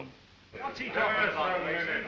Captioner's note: men chattering indistinctly